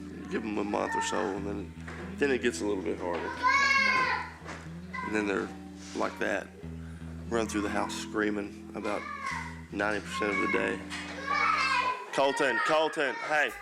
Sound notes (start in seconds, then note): 3.1 boy shouts; 11.1 boy screams